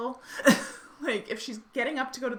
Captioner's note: laughing